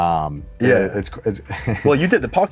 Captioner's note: laughs